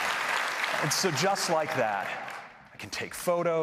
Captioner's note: applause